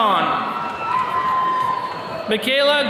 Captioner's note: attendees cheering